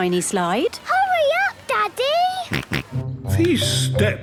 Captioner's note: George snorts